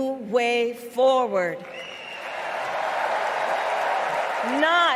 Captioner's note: applause